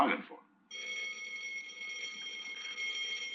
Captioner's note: bell ringing